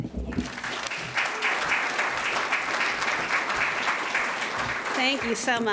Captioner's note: applause